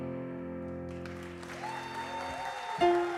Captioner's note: audience applause